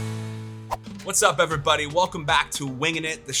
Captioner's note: air whips